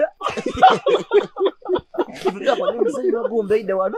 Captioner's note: laughing